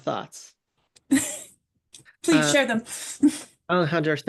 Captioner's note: laughs